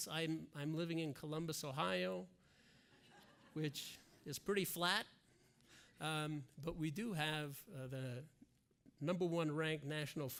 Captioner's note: laughter